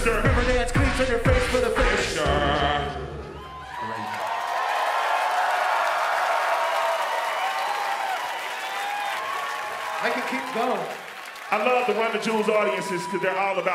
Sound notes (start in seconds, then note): 3.6 audience cheering